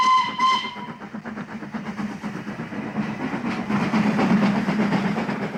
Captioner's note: train horn